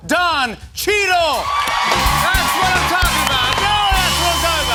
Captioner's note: cheers and applause